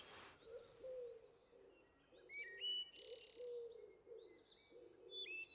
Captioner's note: birds chirping